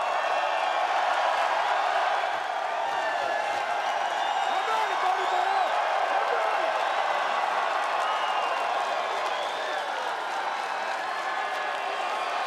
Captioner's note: applause